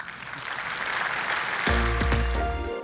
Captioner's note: applause